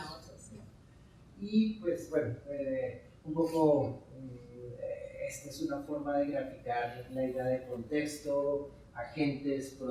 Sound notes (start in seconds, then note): 1.5 speaking in Spanish